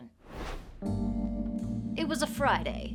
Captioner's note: air whooshing; dramatic jazz music